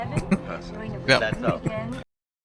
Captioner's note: chuckling